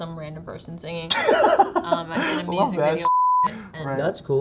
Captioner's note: laughs